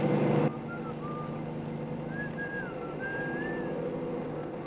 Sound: Mr. Compton whistling

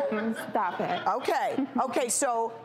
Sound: chuckles

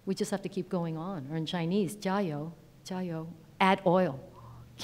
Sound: speaks in foreign language

